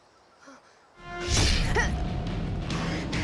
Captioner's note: Riley grunting